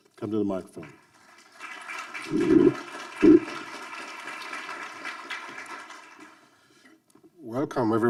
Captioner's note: audience applauding